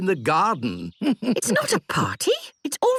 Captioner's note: chuckles